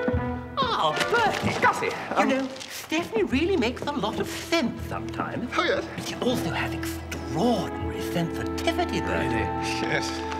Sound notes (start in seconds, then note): none